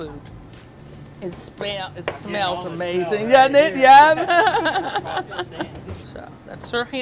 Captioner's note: laughs